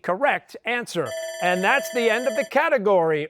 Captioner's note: bell rings